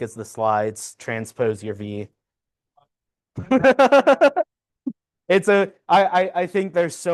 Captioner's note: laughs